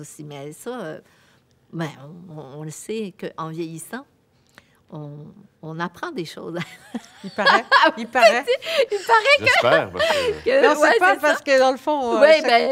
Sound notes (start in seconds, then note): 7.0 laughs